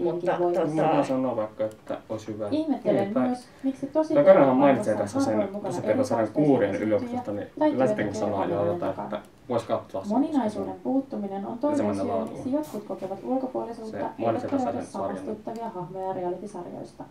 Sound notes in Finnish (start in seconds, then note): none